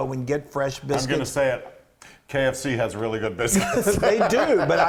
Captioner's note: laugh